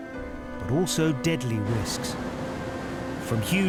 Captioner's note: waves crashing